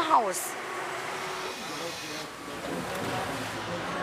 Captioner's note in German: Maschinensurren, Stimmengewirr